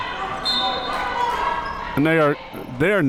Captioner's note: whistle being blown